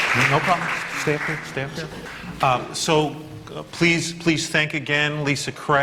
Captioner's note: applause